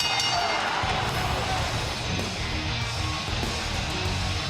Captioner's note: bell rings